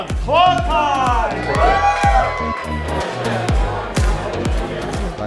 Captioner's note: audience cheers